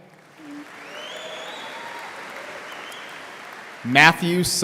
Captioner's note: audience applauding